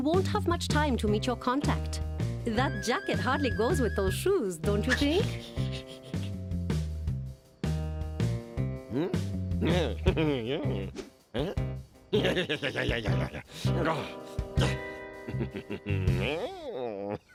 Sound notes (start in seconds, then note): 4.7 laughs; 9.7 chuckles; 15.2 chuckles